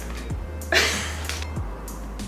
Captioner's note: wheeze